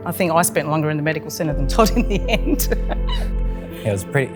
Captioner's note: laughs